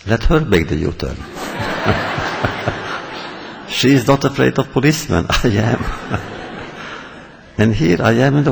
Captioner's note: laughter